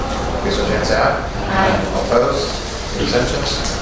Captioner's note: A chorus of ayes